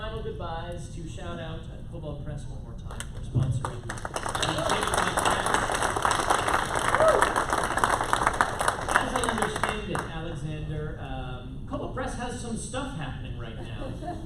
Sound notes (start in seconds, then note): 6.7 applause